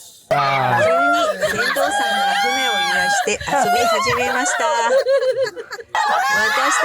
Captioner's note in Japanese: 大笑